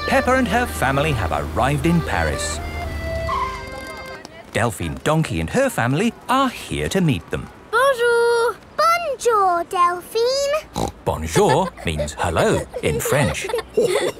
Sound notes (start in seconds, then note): 10.7 snorts; 14.0 chuckles